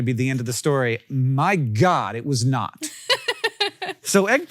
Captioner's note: Rachel laughs